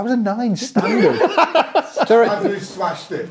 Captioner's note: people laughing